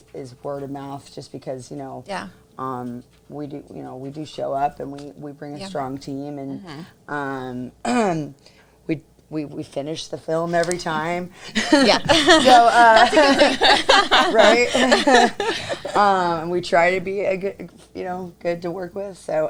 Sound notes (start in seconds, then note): 11.4 laughs